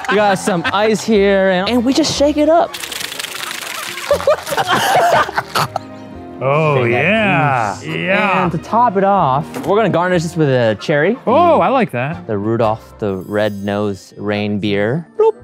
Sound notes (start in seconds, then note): 2.7 high speed shaking; 3.4 laughs